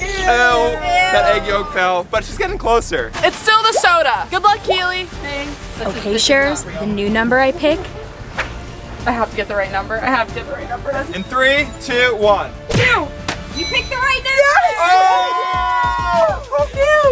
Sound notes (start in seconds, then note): 13.5 bell rings; 14.4 screams of delight